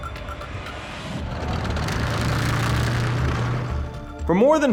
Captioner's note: tank whirring